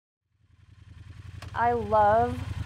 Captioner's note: motorcycle revving